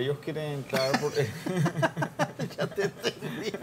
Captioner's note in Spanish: Laugh